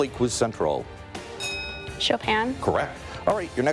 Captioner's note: bell dings